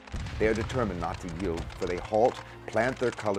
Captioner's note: voiceover